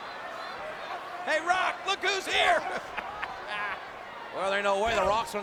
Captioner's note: laughs